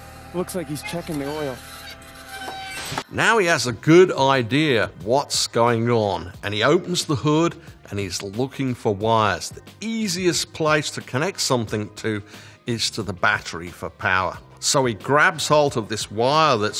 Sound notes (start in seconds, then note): 0.6 wipers screeching